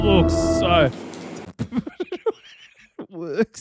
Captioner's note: laughing